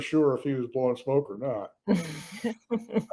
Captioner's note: all laugh